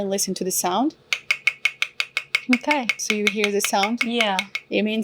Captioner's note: tight tapping sounds